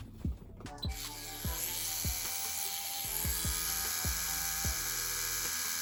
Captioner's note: tattoo machine buzzing; light music